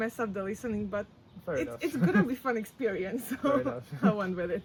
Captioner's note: laughs